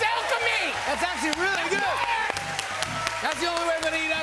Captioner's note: cheers and applause